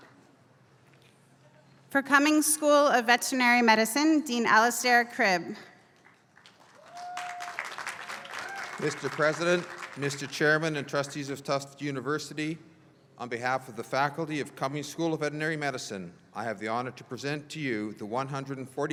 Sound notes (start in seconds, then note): 5.9 applause